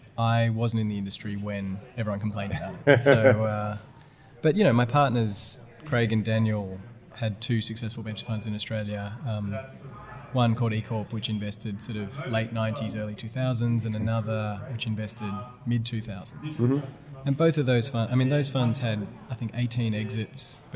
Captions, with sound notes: I wasn't in the industry when everyone complained about it. (laughter) - So, but you know my partners Craig and Daniel had two successful venture funds in Australia, one called E Corp which invested sort of late 90s early 2000s and another which invested mid 2000s and both of those funds had I think 18 exits